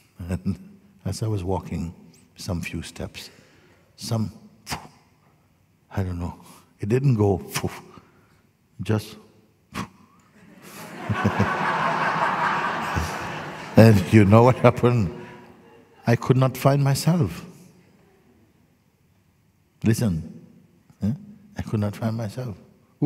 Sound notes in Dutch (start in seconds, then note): 10.3 gelach